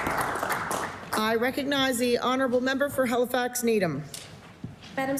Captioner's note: applause